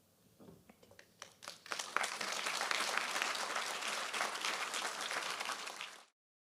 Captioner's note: applause